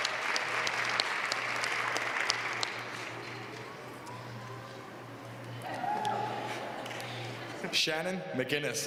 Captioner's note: applause